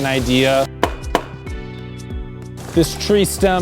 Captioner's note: arrows knocking